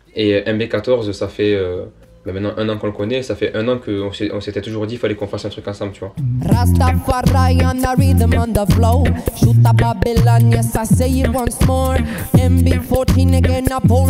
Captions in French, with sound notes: Et MB14, ça fait maintenant un an qu'on le connaît, et on s'était toujours dit qu'il fallait qu'on fasse un truc ensemble. (beatbox)